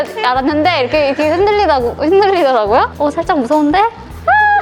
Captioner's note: stumbling